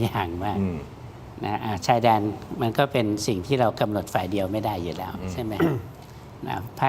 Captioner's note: clears throat